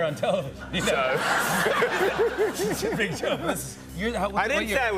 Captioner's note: laughter